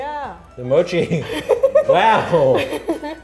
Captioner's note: laughing